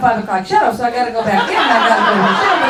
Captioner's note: laughter erupts